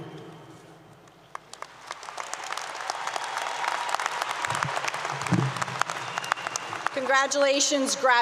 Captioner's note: applause 👏 👏